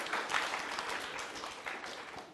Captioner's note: applause